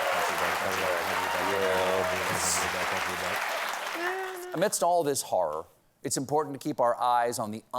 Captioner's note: cheers and applause